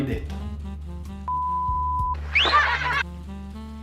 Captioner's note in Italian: fischio e risate